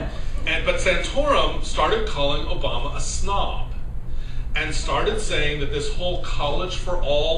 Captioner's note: laughter